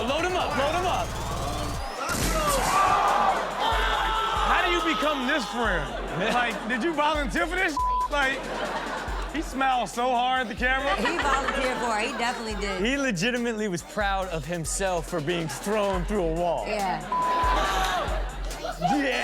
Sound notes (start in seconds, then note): 0.0 audience oohs; 2.4 men yelling; 7.7 beep; 17.0 beep; 18.6 man laughs